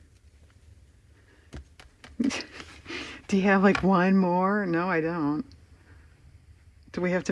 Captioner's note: laughs